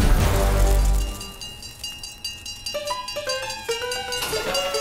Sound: bell ringing; honky-tonk music

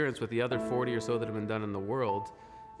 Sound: speaking French

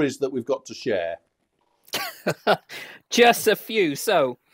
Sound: laughs

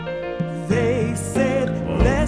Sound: humm

